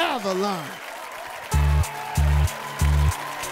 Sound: crowd cheering

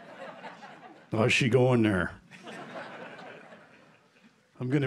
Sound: laughter; laughter

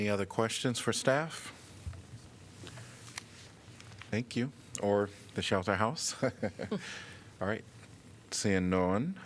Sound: laughter

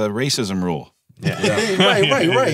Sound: laughing

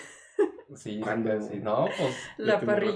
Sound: laughter

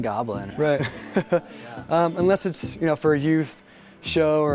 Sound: laughs

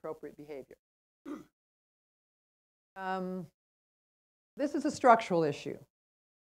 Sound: cough

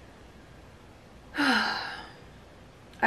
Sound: sigh

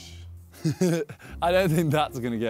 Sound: laughs

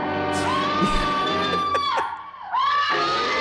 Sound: laughs

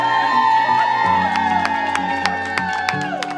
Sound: cheers and applause

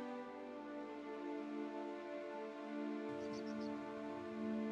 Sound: birds chirping

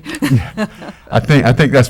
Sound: laughter

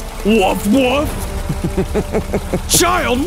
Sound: laughter

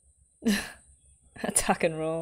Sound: chuckles

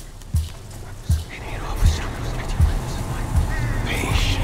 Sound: dramatic music; ghostly voice whispering

